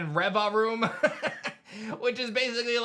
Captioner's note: laughs